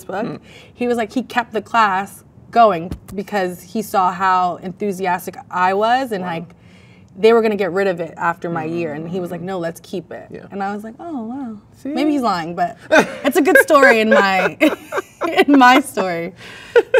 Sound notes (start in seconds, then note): 12.8 man laughs; 12.8 laughs